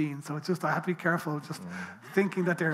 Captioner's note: people laughing